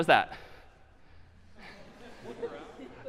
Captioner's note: laughter